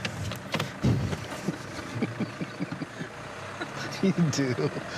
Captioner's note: laughing